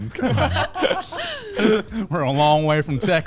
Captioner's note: men laugh